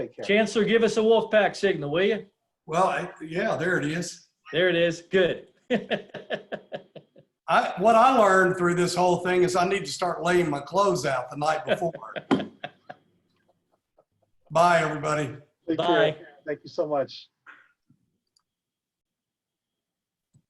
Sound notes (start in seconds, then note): 5.6 laughs; 11.6 laughs